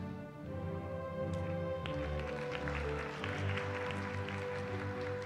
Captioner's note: applause